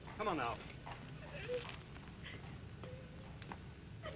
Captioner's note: Mildred sobs